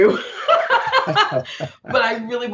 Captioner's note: laughing